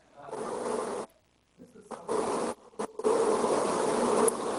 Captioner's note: mic static